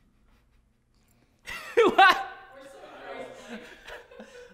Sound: laughter

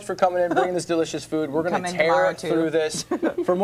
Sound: laughter

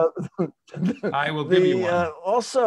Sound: chuckles

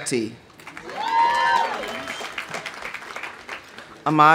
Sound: audience applauding; audience cheering

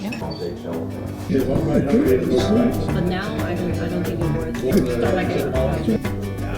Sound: non-stop chatter for over two hours

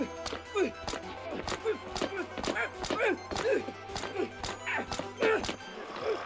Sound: squelching; foot thudding

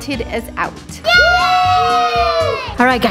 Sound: family cheering

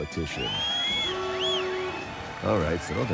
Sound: rowdy cheers and applause

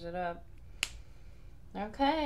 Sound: snap

